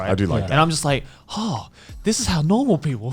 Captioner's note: sighs quickly